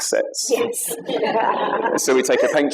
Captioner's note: laughter